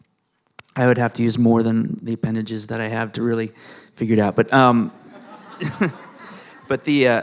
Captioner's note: laughing